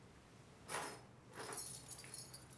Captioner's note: keys jingling